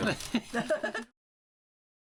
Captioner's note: laughter